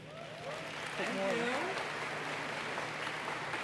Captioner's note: applause